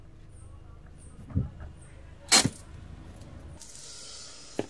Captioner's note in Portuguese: Carro estacionando